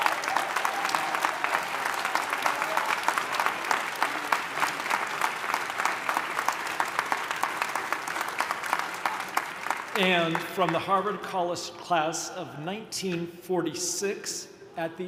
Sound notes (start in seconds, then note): 3.5 audience continues applauding